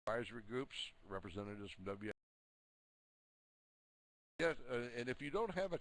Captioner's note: audio drops